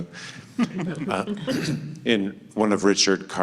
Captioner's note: panel laughs